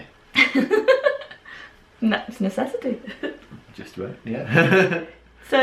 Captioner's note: laughing